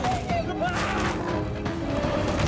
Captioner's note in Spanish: Laín grita